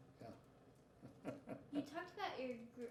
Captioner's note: laughing